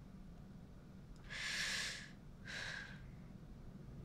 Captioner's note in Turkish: İç çekiyor